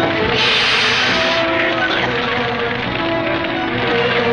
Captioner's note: whooshing; dramatic music